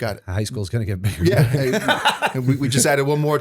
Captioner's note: laughter